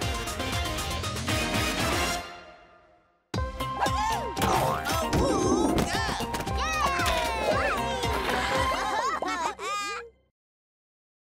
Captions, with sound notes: - Woo-hoo! - Awooga! - Yay! (laughing)